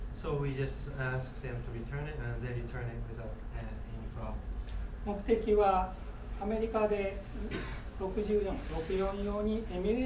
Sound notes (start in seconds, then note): 5.2 speaking in foreign language; 7.4 coughing